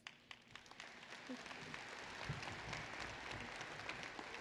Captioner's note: applause